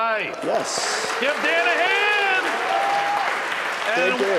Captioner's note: audience applauding